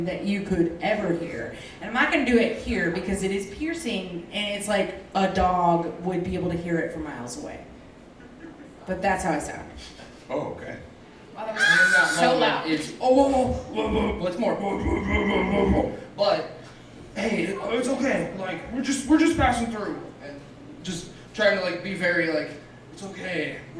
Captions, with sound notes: that you could ever hear, and I'm not gonna do it here, because it is piercing, and it's like a dog would be able to hear it from miles away. But that's how I sound. - Oh, okay. (screeching) - So loud. - Oh, whoa, whoa, whoa, whoa, whoa, whoa, whoa, whoa, whoa, but, hey, it's okay, like, we're just passing through. Just trying to like, be very like, it's okay,